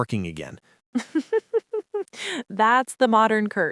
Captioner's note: laughs